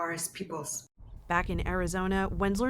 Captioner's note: voice-over